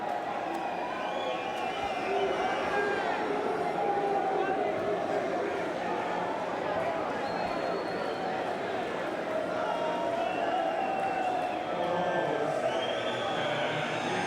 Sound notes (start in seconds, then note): 2.1 crowd cheering